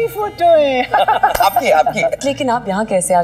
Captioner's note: Laughs